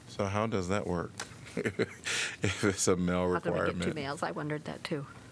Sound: laughter

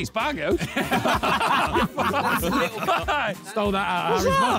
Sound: all laughing

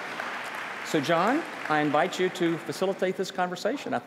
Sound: applause

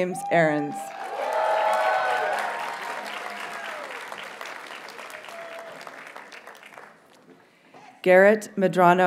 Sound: audience cheers and applauds

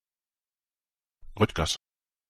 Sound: fast Pronunciation

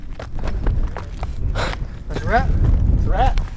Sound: exhales

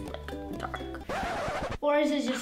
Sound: screeching

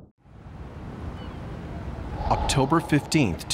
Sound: birds chirping; wind whooshing

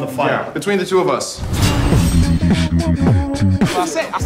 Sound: air whooshing

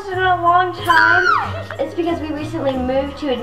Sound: screams

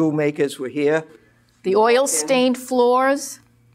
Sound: voiceover

